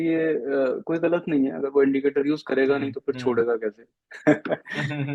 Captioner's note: laughs